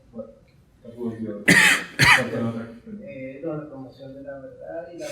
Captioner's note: speaking in Spanish